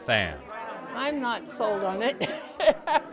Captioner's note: laughs